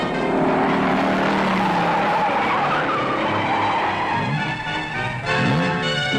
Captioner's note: tires squealing; engine roaring; tires squealing; suspenseful instrumental music